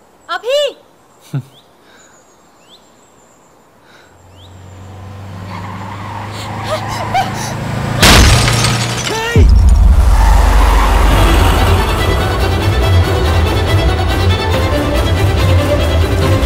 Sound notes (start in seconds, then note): 1.4 vehicle arriving; 6.1 tyres screeching; 8.0 thuds